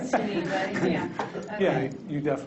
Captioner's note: people laughing